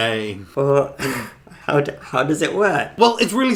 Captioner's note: laughs